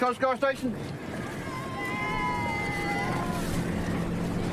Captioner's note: cheers